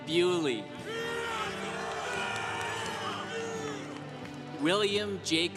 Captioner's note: congregation applauding